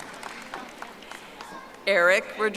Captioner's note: audience applauding